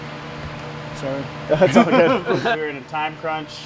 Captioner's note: laughing